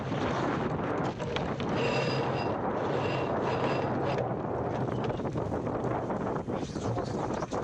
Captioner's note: winches grinding